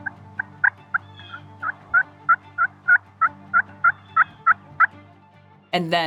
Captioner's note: turkey calling